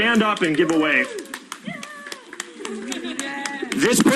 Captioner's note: crowd cheering